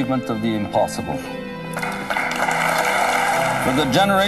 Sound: clapping

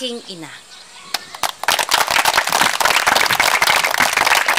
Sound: applause

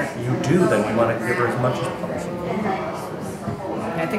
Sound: none

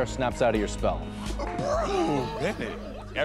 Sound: laughter

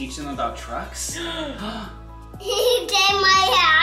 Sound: gasps

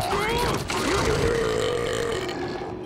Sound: grunting; belching

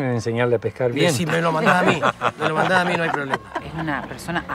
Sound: laughing

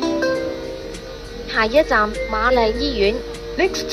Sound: Cantonese

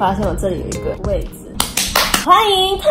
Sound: awkward Clapping

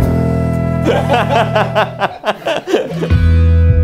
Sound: laughing

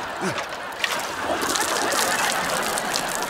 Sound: water splashing; gasping

